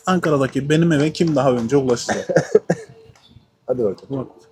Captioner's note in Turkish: öksürme; kahkaha